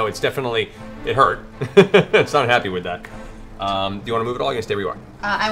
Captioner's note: laughs